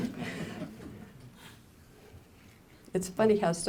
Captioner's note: laughter